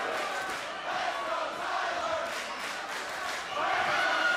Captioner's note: fans chanting